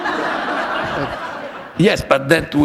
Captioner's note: laughter